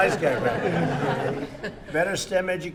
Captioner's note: laughter